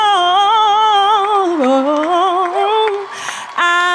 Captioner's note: audience applauding and cheering